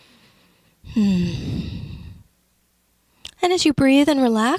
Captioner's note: exhales loudly with a mmmmm sound